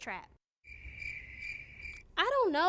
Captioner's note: crickets chirping